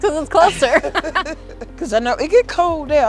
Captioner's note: laughing